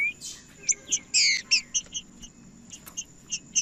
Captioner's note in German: trinca ferro cantando